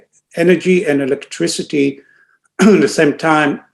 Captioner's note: clears throat